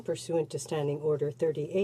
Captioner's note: speaking french